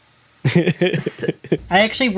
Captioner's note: laughs